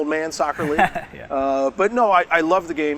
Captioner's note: laughs